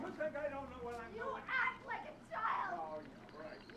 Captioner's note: screaming